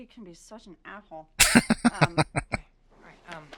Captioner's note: laughing